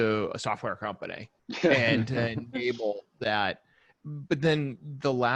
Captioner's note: laughing